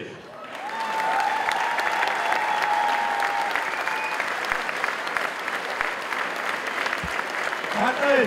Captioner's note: applause